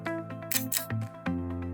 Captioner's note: click